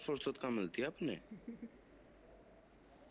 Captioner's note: laughs